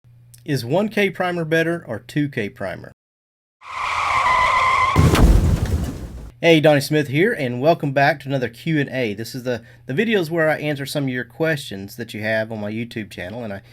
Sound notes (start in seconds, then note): 3.6 crash; 3.6 explosion; 3.6 tires screeching